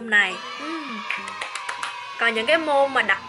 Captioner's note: clap